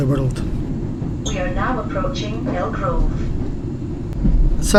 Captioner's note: announcement